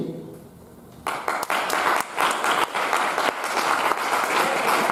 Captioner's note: audience applauding